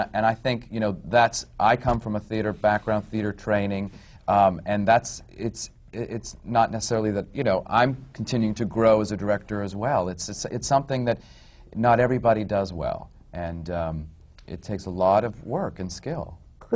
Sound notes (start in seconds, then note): none